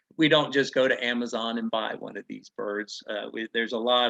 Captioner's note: none